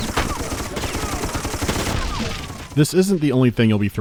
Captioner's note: machinegun fire